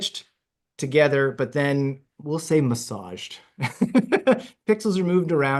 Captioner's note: laughs